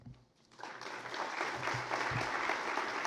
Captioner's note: applause